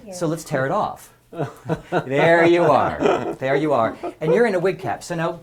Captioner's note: laugh